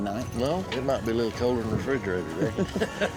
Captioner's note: laughter